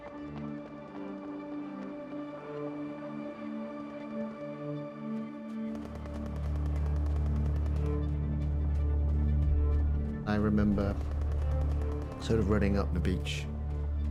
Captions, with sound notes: [hurried footsteps clacking] [dark music continues] [distant gun fires rapidly] - I remember sort of running up the beach